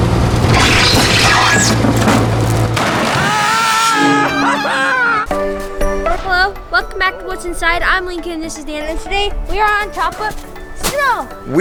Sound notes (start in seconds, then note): 0.0 machine whirring; 2.3 loud crash; 2.7 comical screams; 5.4 house music